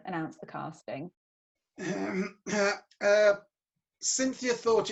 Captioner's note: GERALD clears his throat